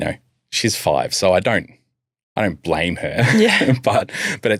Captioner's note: chuckles